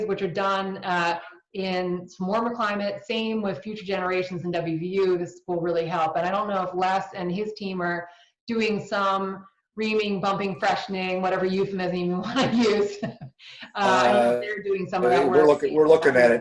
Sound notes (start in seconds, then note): 13.6 laughs